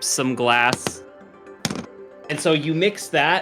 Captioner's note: chips dropping